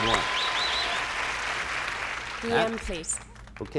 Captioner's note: cheers and applause